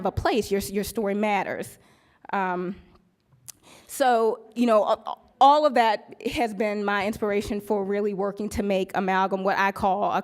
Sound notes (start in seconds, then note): none